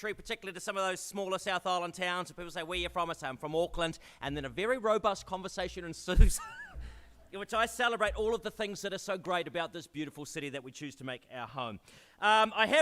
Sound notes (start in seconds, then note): 6.2 laughs